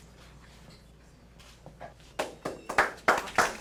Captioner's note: applause